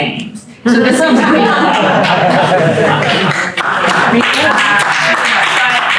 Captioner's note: audience laughter